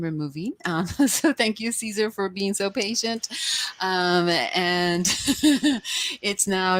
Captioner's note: chuckles; chuckles